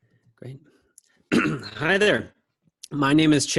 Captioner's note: clears throat